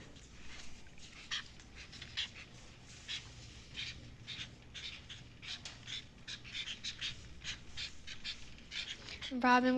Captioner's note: sound of highlighters on paper